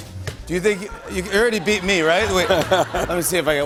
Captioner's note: laughter